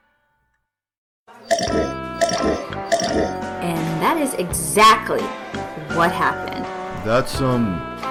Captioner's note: slurp